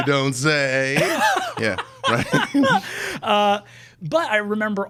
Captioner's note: laughing